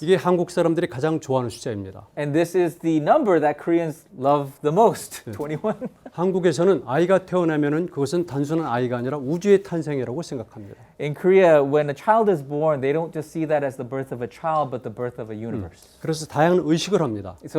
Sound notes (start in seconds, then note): 0.2 speaking in Korean; 5.4 laughs; 6.5 speaking in Korean; 16.2 speaking in Korean